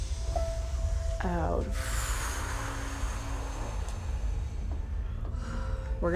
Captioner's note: inhaling; exhaling